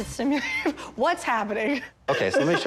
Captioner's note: laughing